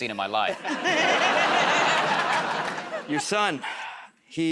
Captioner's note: laughter